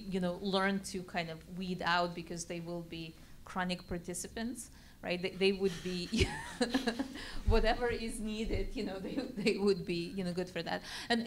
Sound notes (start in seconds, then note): 5.7 laugh